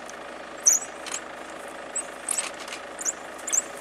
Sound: wild dog noise

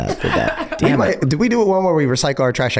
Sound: laughing

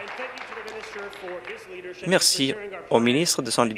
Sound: applause

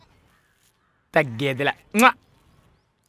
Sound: kisses

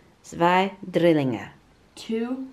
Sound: speaking in foreign language

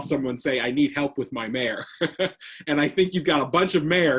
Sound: laughs

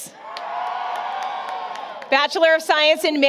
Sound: applause, Cheering

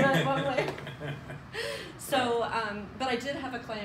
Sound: both laughing

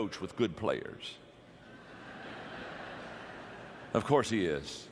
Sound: audience laughter

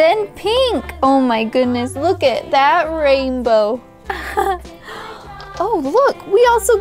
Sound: laughs

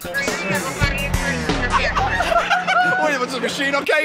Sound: laughter

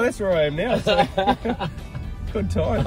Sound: both laughing

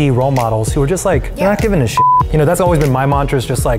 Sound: beep

